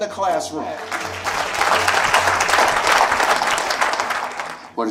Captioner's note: applause